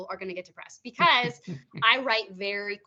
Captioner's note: laughing